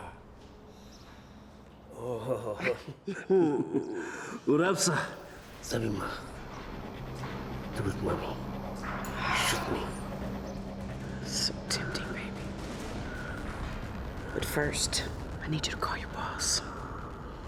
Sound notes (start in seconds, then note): 2.1 laughs; 2.1 chuckles; 4.3 speaking Slavic language